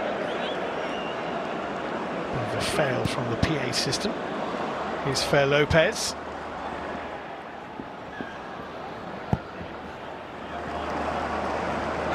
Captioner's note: audience oohs